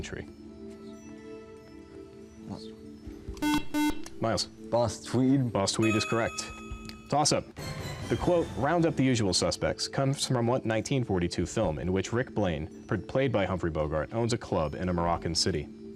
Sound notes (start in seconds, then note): 0.7 whispering; 1.8 beep